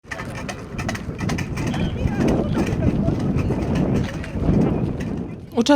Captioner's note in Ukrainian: звук вітру та лязг металу